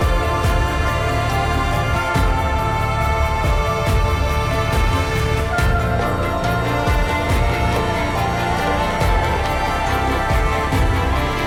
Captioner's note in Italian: Applauso